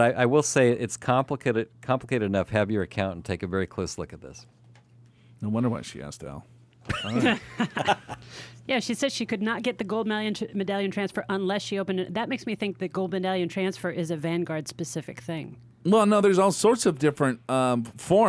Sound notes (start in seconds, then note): 6.9 laughs